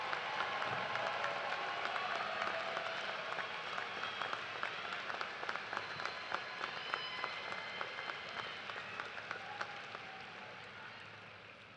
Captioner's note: cheers and applause